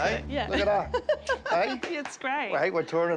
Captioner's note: laughs